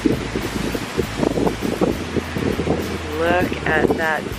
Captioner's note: wind rustling